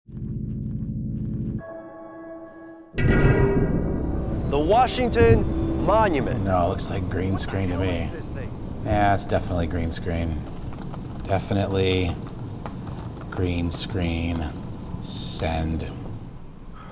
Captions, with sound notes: (light, clean music) (menacing music) - The Washington Monument, what the hell is this thing? - No looks like green screen to me. Yeah, it's definitely green screen. (typing, clicking) Definitely green screen. Send.